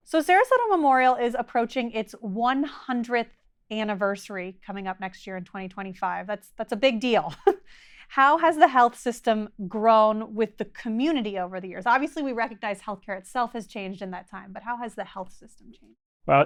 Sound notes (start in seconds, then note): 7.4 chuckles